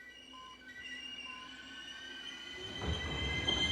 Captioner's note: subway train screeching